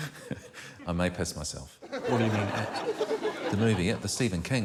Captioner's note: chuckles